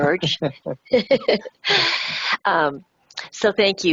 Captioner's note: laughs